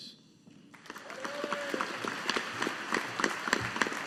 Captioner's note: audience applauding